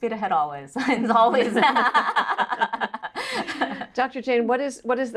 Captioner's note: laugh